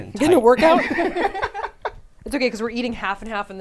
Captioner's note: all laughing